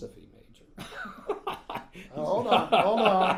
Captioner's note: laughing